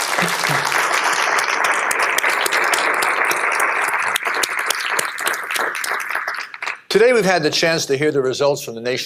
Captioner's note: applause